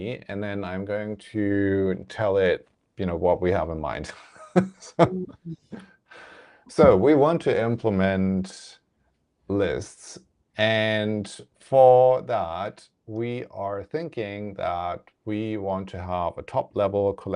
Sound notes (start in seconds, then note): 4.1 laughs